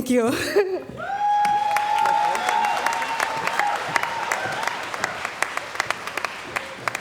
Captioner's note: cheering & Applause